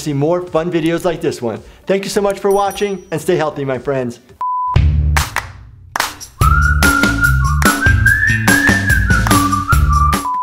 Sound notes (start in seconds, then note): 2.4 bell rings; 4.4 beep; 4.7 upbeat music